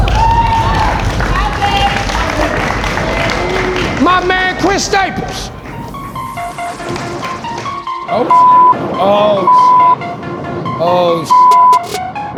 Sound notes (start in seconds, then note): 0.0 spectators applauding; 7.8 beep; 11.3 beep